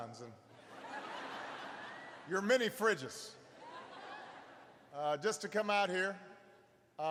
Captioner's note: laughter